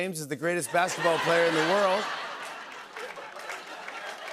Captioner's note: laughter